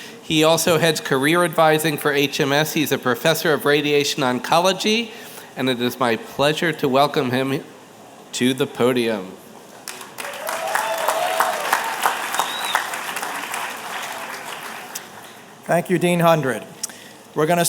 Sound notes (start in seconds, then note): 9.8 applause